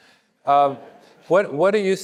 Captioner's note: audience laughing